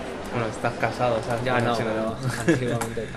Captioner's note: laughs